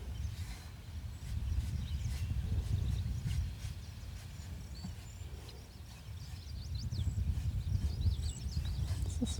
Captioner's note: birds chirping